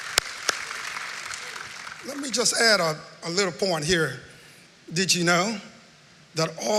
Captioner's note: cheering and applause